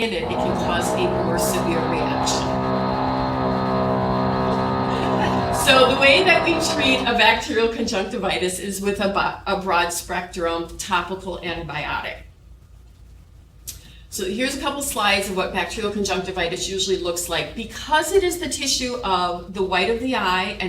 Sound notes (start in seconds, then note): 2.9 laughing; 2.9 tool motor whirring